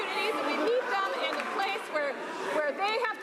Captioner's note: some Applause